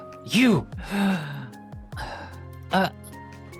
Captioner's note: gasps